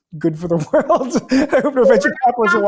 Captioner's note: laughing